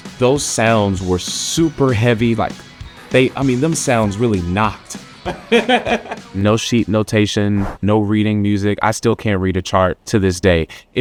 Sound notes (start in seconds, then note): 5.2 laughs